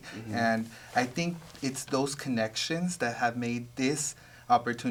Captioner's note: none